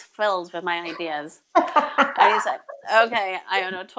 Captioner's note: laughs